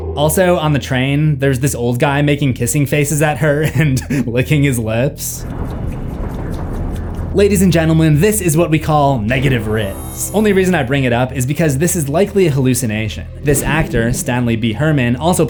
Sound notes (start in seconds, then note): 5.4 laughing; 5.5 kissing sounds